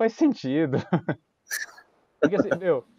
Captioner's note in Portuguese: risos